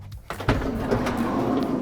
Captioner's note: car door opens